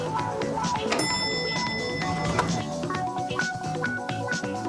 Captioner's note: elevator dings